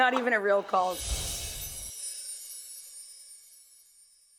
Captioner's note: laughing; chimes ring